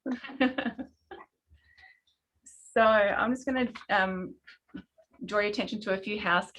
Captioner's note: laughing